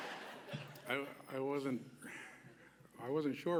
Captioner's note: laughter